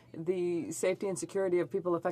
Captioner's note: speaking French